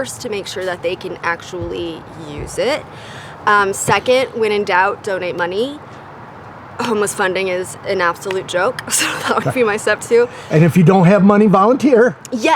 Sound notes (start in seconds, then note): 9.0 chuckles